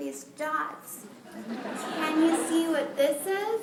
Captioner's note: laughter